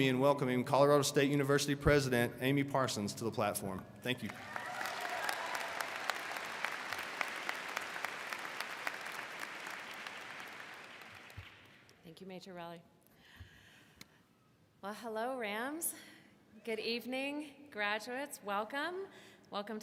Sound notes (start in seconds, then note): 6.0 audience cheers